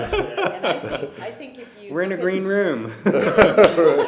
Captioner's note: laughter